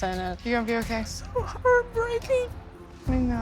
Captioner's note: crying